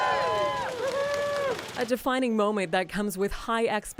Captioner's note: applause